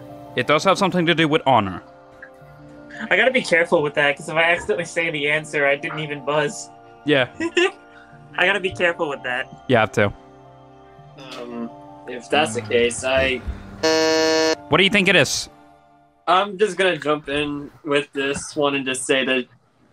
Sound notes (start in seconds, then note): 7.7 chuckles; 13.8 buzzes